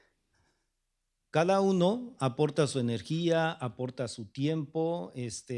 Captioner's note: speaking spanish